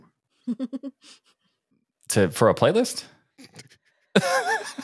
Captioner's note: laughing